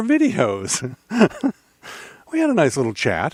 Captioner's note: laughing